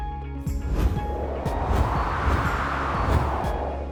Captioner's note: whooshing